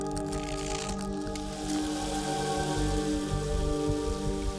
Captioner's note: water running